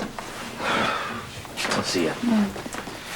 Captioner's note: sighs